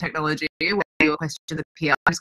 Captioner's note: murmurs